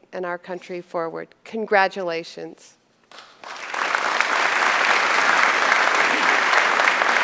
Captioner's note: applause